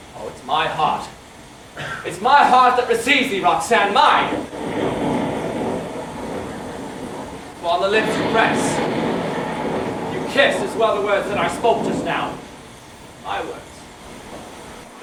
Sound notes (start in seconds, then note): 4.5 thunder